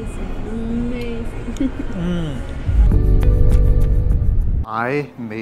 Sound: laughs

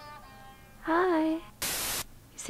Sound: static scare noise

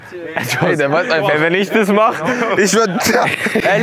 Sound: laughs

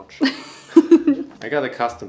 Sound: laughing

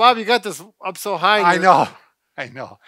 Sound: laughs

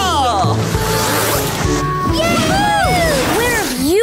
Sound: howling

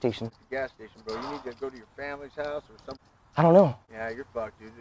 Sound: none

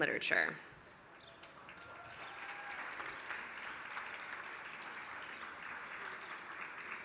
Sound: applause

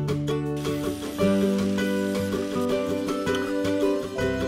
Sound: welding

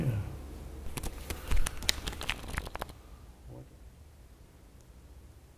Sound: cards pattering

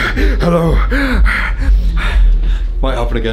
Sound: panting

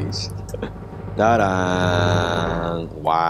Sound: drum roll; hums

